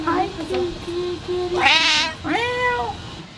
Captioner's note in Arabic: مواء